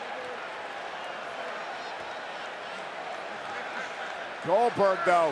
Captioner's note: crowd cheers